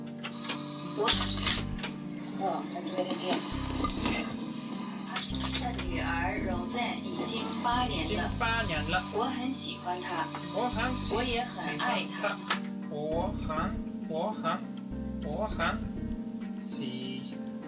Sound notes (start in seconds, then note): 2.5 woman on tape Chinese; 8.2 speaking Chinese; 9.4 woman on tape Chinese; 11.0 speaking Chinese